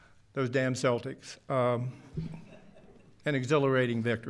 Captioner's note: laughter